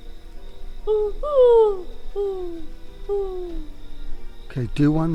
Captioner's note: owl calls